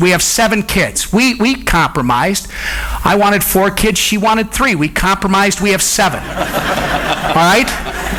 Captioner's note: audience laughs